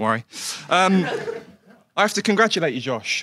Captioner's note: audience laughs